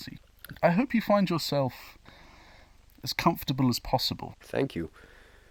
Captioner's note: inhale